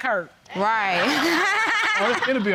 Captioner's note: laughs